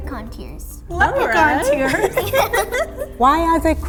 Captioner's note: laughing